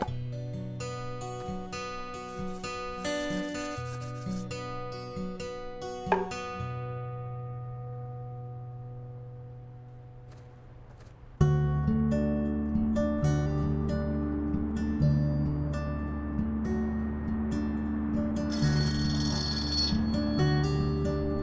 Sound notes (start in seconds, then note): 6.1 thumps; 11.5 soft guitar music; 18.6 phone ringing